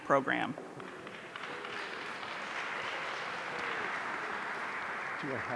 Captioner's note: audience applauding